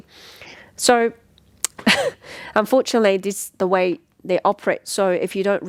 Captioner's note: chuckle